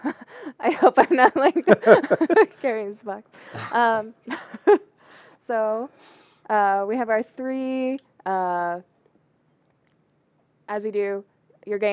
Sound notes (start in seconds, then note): 3.0 laughter